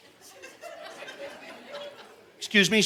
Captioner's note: audience laughing